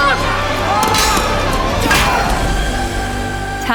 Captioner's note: shouting, swords clanging